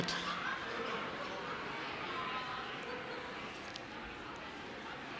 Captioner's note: chattering